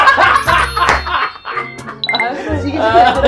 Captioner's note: gives a big laughter untill the last moment